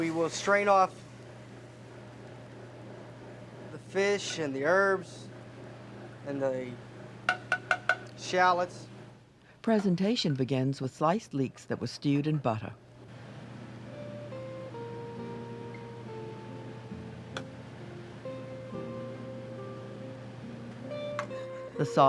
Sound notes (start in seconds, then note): 10.4 voiceover